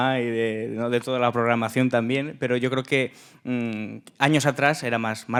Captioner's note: speaking in Spanish